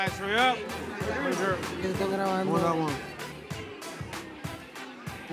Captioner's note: Spanish spoken audio